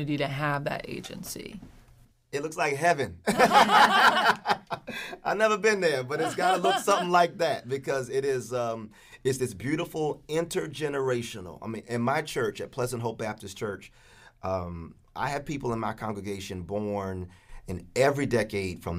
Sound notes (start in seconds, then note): 3.2 both laugh loudly